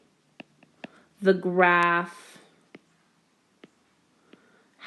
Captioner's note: keyboard Tapping; keyboard Tapping